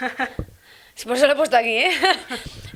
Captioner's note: laughs